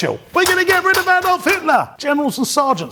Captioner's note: thumping